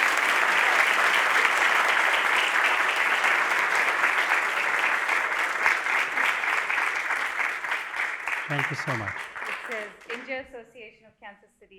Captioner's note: applause